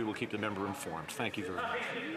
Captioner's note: some Applause